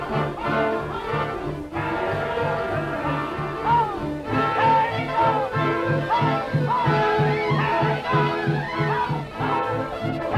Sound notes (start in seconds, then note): 1.5 chanting